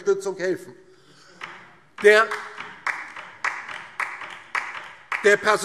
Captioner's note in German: Beifall DIE LINKE